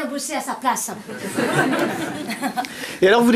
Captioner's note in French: rires